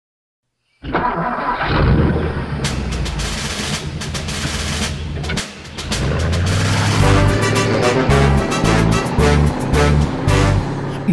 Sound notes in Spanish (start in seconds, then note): 1.9 Sonido de Motor y redoblante; 5.8 Música Alegre